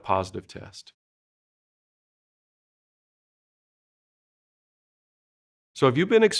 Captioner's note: silence